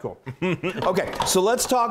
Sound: laugh

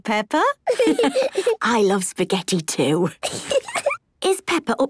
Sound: laughs

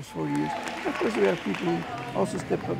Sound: audience cheering

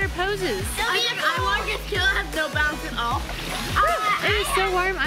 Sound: kids chatter

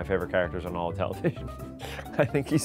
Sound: laughing

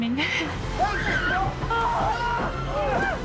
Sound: screaming and wailing

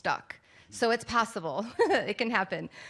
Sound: laughs

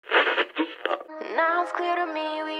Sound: radio tuning

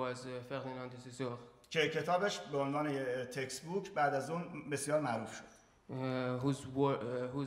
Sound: speaking in farsi

